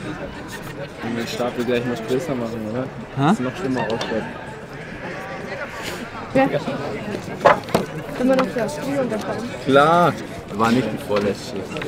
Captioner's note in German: Gemurmel